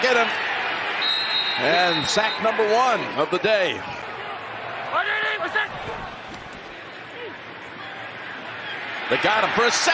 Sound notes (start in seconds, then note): 1.0 whistle blowing